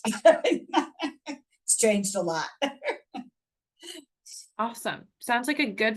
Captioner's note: laughs